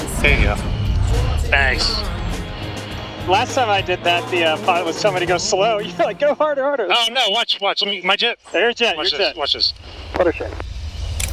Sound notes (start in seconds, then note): 5.2 laughs; 11.1 lever clatters